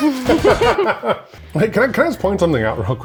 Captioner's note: laughing